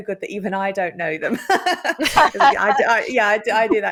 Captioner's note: laughter